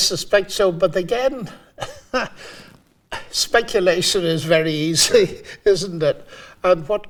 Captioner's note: laughing